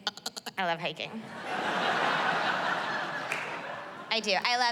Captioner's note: laughter